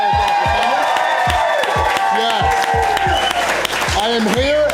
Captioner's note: crowd clapping and cheering